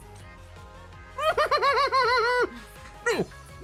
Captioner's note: muffled laughter